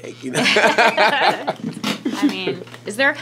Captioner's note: laughing